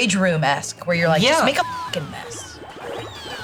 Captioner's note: beep; objects chiming; upbeat goofy music